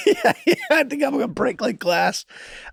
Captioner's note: Charlie laughing amusingly